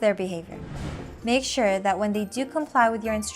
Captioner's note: text bubble whooshing